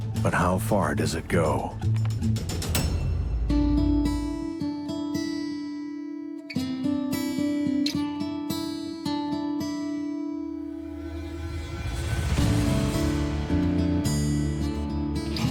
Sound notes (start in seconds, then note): 2.7 thunderous explosion; 4.0 light guitar music